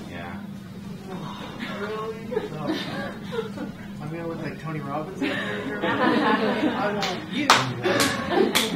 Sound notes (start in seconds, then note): 1.1 audience giggling; 5.0 audience laughing